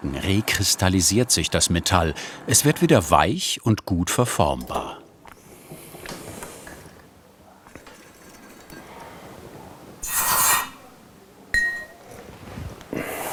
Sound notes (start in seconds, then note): 10.0 hissing